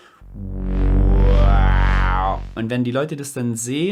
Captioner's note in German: imitiert Bass Sound